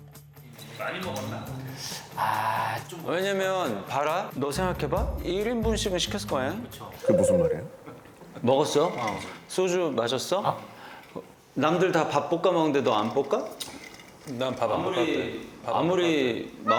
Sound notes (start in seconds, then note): 7.0 gulp